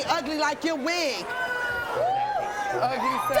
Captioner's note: audience boos